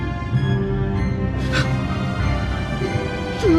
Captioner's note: Thomas gasps